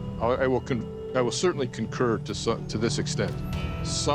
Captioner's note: stammers